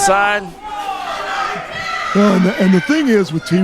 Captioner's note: crowd shouting